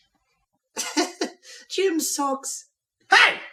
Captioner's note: laughing